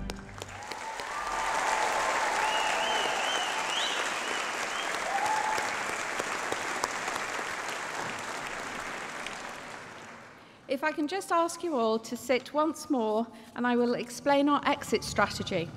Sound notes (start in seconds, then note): 0.8 applause